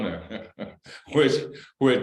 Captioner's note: laughter